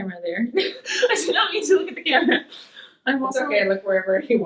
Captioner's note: laughing